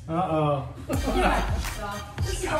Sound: laughs

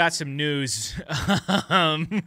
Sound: laughing

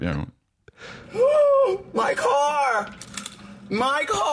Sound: gasps

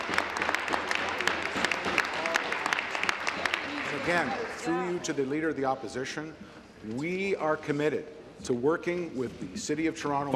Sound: applause

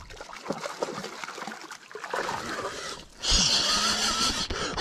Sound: water splashing

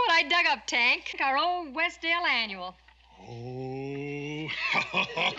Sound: chortling

